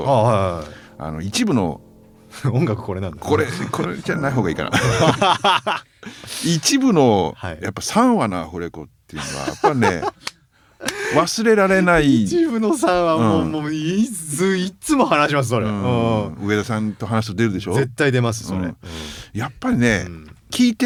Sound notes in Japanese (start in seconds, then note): 4.7 笑い